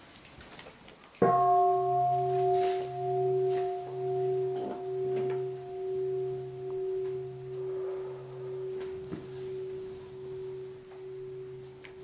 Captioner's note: the sound of the bell